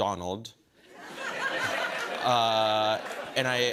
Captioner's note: laughter